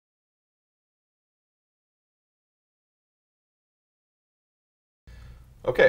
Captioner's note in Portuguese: áudio vazio